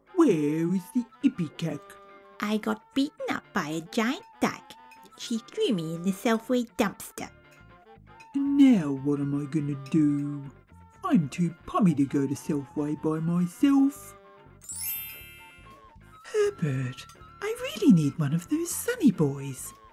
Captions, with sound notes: Where is the Ipecac? I got beaten up by a giant dyke. She threw me in the Selfway dumpster. Now what am I gonna do? I'm too pommy to go to Selfway by myself. (ringing sound) Herbert! I really need one of those Sunnyboys!